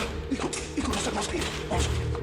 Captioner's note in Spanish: Disparos; Golpes